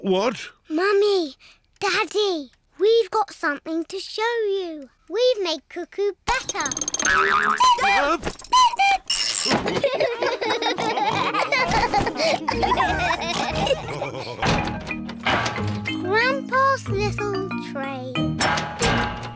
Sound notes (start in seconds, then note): 6.5 clock cuckoos; 9.6 all laugh